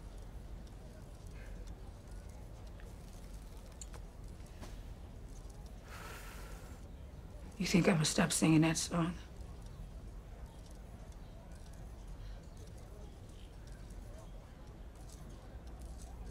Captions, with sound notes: (exhales) - You think I'm gonna stop singing that song?